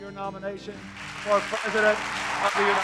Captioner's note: applause